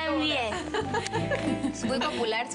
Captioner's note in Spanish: Risas